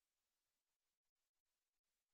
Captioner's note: none